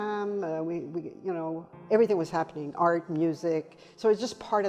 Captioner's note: speaking foreign language